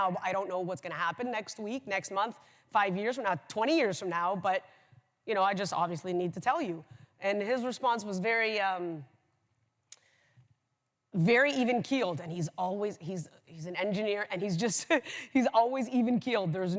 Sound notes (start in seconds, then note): none